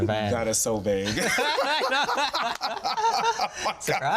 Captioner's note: all laugh